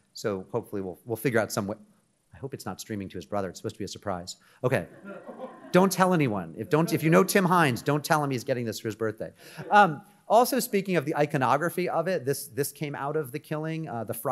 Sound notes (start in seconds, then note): 4.9 audience laughing